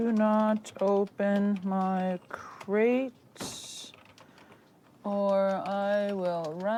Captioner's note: keyboard keys clacking